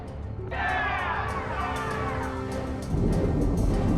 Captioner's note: all cheering